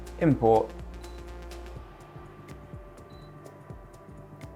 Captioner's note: screen beeps